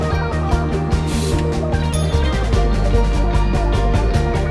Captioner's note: bell rings